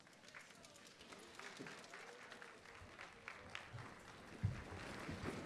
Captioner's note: attendees clapping